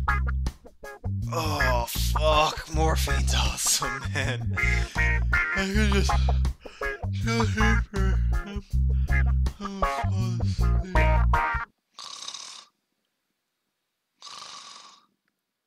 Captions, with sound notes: Oooooh Fuck, morphine's awesome man I could just... Chill here for... I'ma fal asle... *Snore* *Snore*